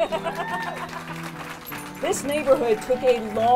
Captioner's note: crowd applauding